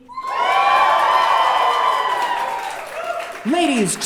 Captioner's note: audience cheering